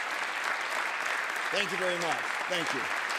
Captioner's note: applause continues